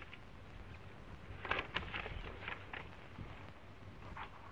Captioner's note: paper rustling